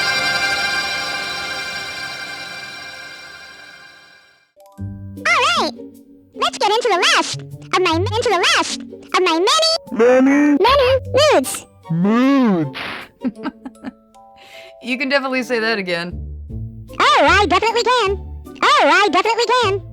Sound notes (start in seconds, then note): 12.0 laughing